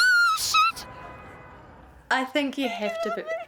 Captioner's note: screams